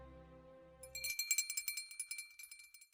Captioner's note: image tinkles